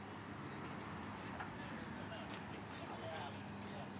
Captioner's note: chattering